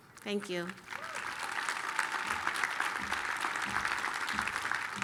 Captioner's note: applause